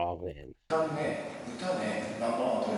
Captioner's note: speaking in foreign language